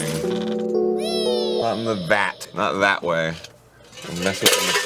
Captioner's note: echo with reverb